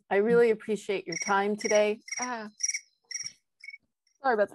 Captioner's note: phone ringing